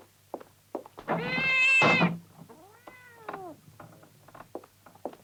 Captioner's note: cat meows; chair creaking